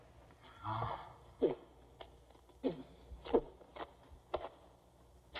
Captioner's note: spitting